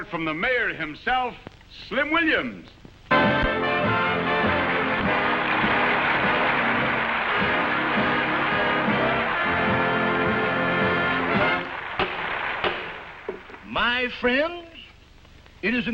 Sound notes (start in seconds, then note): 3.1 upbeat music; 3.1 audience applauding